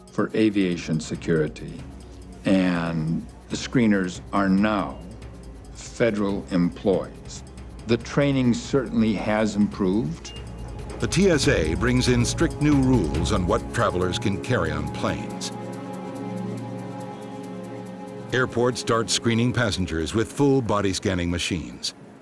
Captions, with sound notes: for aviation security and the screeners are now federal employees. The training certainly has improved. (scanner beeps) - [Voiceover] The TSA brings in strict new rules on what travelers can carry on planes. Airports start screening passengers with full body scanning machines.